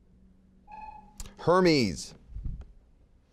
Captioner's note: buzzer beeping